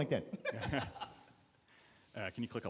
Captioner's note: laughing